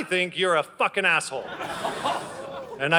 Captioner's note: audience gasps